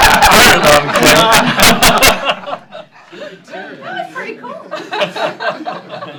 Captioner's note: laughter